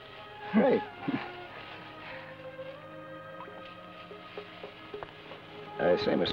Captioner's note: chuckles